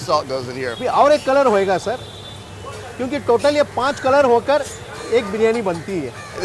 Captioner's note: speaking in foreign language